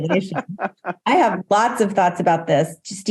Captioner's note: laughs